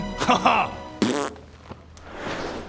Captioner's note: pfft; whoosh